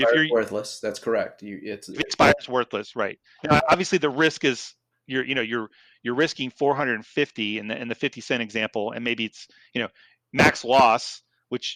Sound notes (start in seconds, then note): 1.8 murmurs